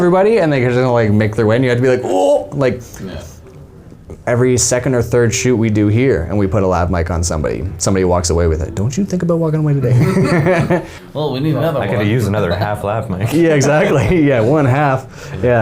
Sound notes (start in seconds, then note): 9.9 men laughing